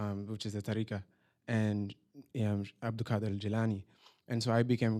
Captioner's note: non-english